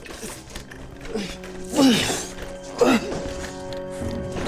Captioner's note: Willard grunts